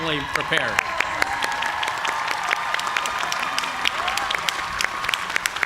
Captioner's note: cheers and applause